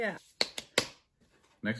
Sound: hands clapping

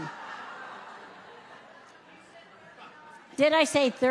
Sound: audience laughs

